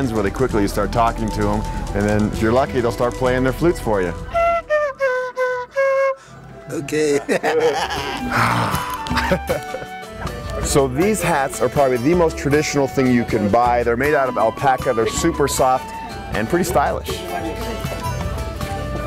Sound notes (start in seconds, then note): 4.8 wooden flute; 6.8 laughs